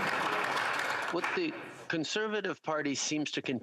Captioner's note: applause